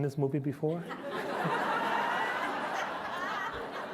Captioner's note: laughter